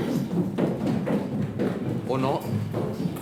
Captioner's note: feet thud